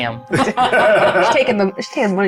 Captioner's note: everyone laughs